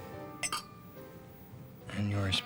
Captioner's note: glasses clinking